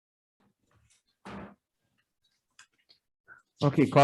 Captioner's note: gavel thuds